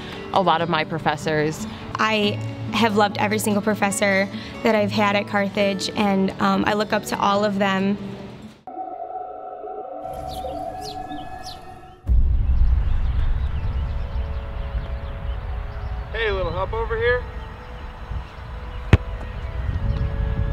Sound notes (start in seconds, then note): 8.6 mysterious music; 16.4 voiceover